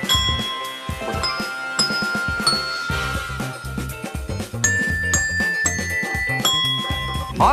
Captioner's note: Suara bel jawaban